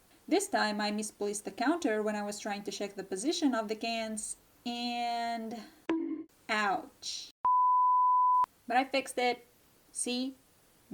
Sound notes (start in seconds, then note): 5.9 bonk